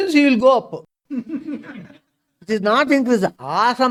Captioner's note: laughs